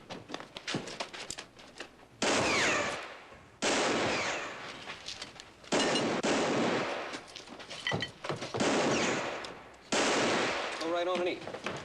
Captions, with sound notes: ( bullet ricochets ) ( gunshots continue ) GO RIGHT ON AND EAT.